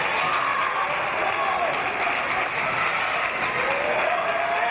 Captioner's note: applause and cheers